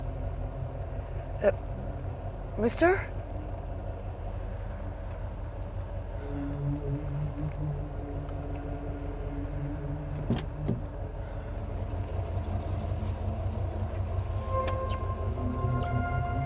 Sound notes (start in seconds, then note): 10.9 crickets chirping